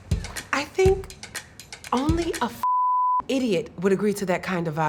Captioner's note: beep